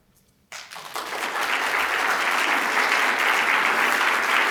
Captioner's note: applause